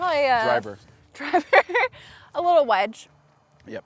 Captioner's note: laughs